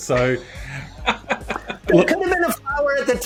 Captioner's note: group laughs